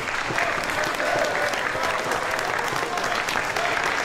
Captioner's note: applause